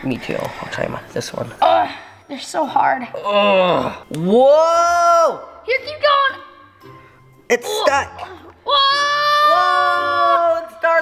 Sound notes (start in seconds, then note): 3.2 grunting